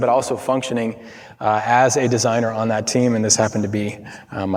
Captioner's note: none